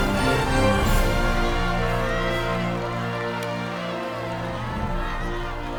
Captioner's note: crowd chattering excitedly